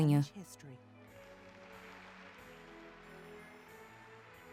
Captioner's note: applause